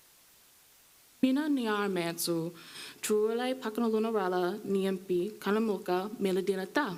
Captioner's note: speaking foreign language